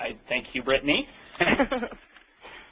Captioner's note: laughter